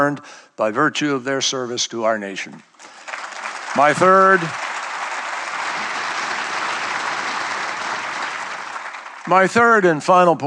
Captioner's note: applause